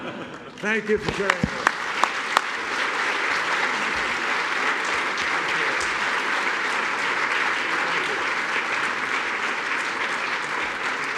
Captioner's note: laughter; applause